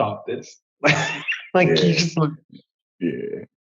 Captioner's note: laughs